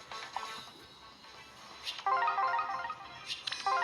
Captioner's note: none